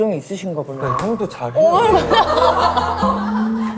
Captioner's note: slap